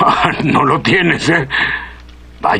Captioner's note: chuckles